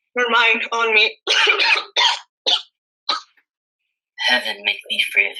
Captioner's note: coughing